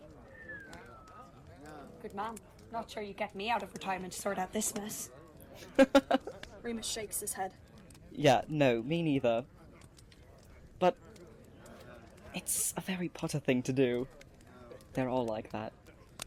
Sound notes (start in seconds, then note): 0.1 Marlene lets out a low whistle; 5.6 Remus laughs